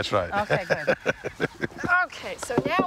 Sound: laughing

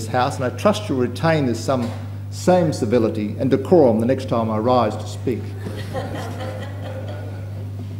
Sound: laughter

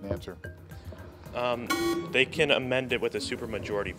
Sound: alarm buzzes

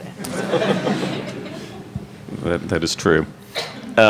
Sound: audience laughs

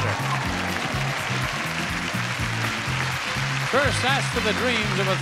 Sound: audience applauding

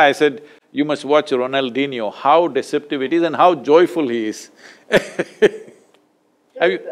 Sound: laughs

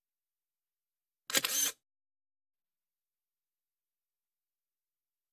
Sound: camera shutter

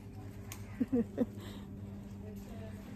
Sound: little laugh

